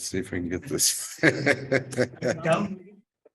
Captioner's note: chuckles